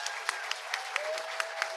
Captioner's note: audience applauding